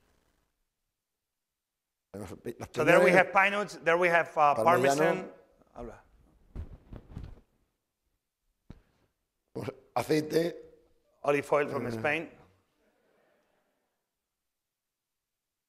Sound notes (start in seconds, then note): 2.0 speaking spanish; 4.4 spanish; 10.2 speaking spanish